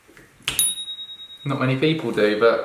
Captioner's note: bell chime